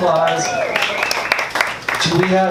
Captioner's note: audience applauding and cheering